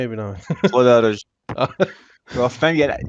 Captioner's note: laugh